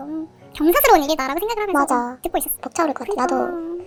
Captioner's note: crying